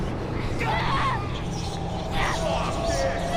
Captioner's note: yells